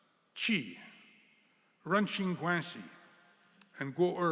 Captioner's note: speaking chinese